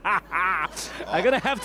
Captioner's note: laughter